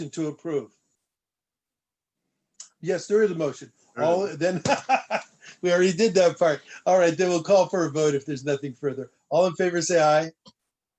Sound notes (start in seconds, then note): 4.3 laughter